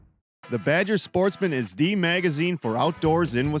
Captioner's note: voiceover